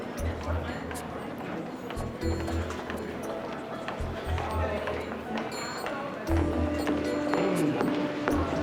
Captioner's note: footsteps